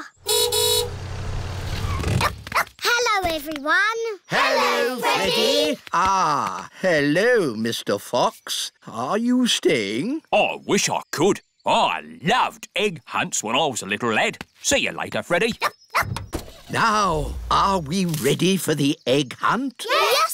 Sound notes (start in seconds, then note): 0.1 horn honks; 0.2 freddy barks; 15.9 barks; 16.2 car engine starts